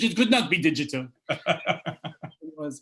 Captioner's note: laughter